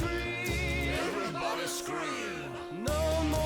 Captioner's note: crowd